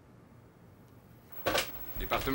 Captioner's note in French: Sonnerie du téléphone